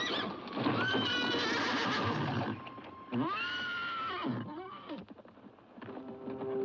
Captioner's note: horse neighs; ominous music